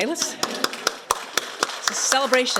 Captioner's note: applause